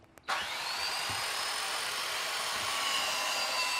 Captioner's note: screeching whirring